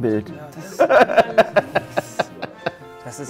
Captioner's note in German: Lachen